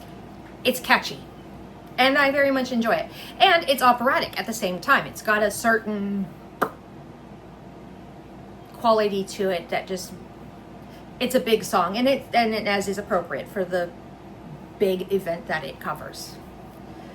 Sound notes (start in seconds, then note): 6.6 yet another obnoxious mouth pop